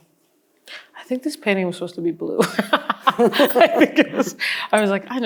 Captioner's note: laughs